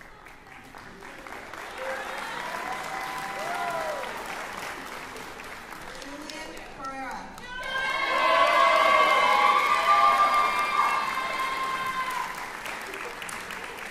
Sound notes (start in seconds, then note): 7.4 cheering